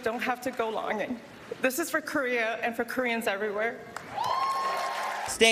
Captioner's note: applause